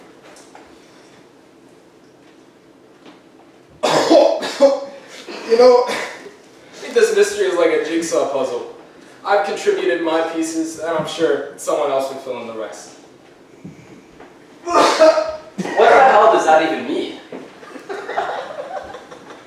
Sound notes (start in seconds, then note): 3.8 PI coughing; 14.6 coughing in other room; 17.7 audience laughing